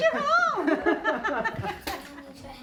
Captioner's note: laughter